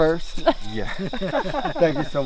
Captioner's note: laughing